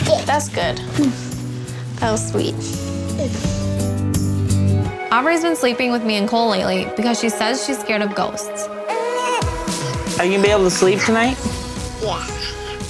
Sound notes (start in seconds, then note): 2.9 soft music; 8.8 baby cries